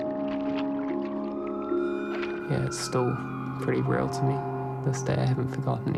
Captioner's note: siren howls distantly